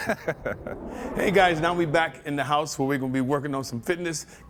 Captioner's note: swoosh sound